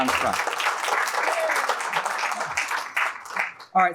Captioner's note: applause